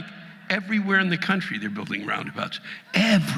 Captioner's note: audience laughing